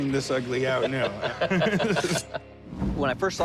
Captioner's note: both laugh